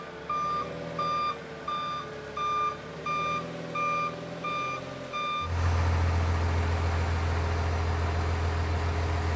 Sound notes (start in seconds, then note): 5.8 engine hum